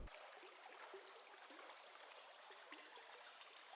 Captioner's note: water falling